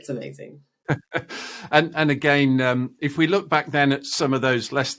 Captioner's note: laughing